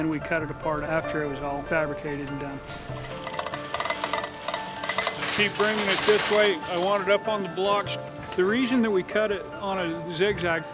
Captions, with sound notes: and then we cut it apart after it was all fabricated. (chains rattling) Just keep bringing it this way, I want it up on the blocks. The reason we cut it on a zig zag,